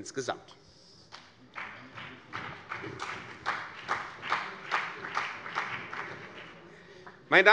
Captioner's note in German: Beifall CDU und BÜNDNIS 90/DIE GRÜNEN